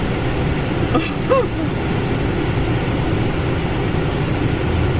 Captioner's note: nervous laughter